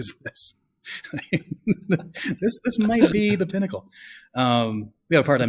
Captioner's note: laughs